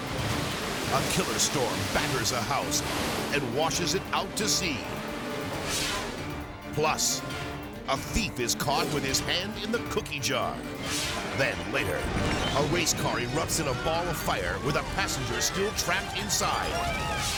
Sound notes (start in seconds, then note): 0.0 waves exploding; 5.6 screen exploding; 10.7 screen exploding